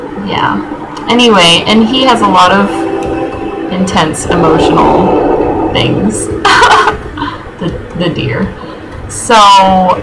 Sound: laughing

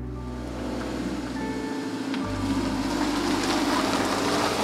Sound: car trunk slamming; car engine humming

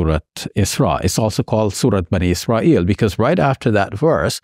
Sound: speaks in Arabic

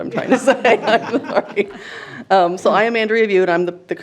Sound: laughing

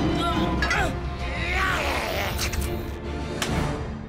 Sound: grunts; growl

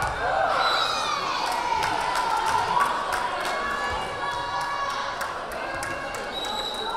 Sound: crowd cheering; whistle blaring

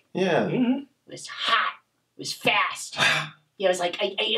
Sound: Mr. Max exhaling sharply

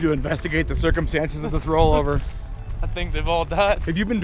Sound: chuckles

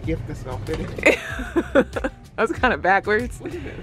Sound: laughs

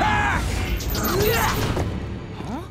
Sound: grunting

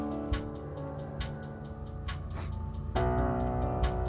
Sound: train approaching

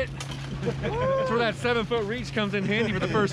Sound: whooping

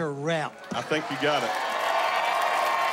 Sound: cheering

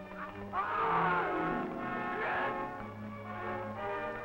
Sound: men groaning

